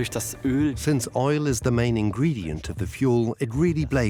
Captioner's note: dubbed in English